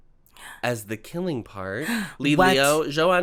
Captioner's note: gasp